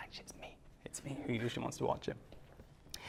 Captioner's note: whispers